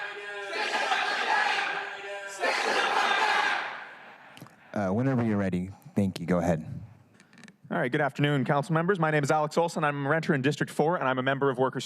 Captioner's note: crowd chanting